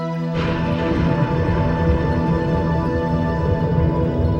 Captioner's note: foreboding music; thunder booming